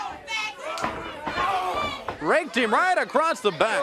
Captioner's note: crowd chatter